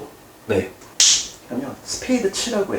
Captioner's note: snap